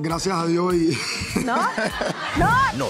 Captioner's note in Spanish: Ríe